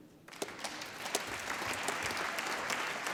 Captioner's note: applause